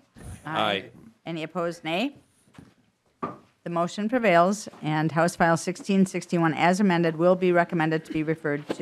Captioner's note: chorus of ayes